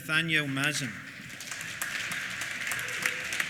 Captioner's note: applause